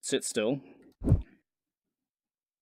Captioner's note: whoosh